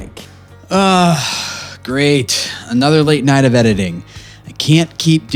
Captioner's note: sighs